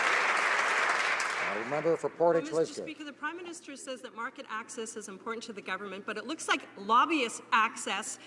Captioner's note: applause